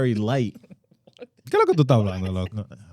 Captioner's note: speaking In Foreign Language